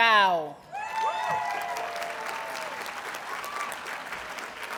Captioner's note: audience cheers and applauds